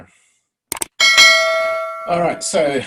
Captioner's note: clicking; bell ringing